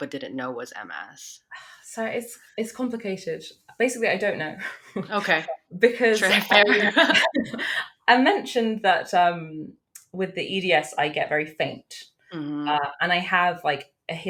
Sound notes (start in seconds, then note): 6.2 both laugh